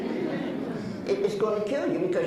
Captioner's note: laughs